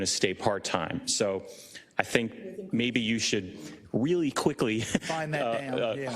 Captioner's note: laugh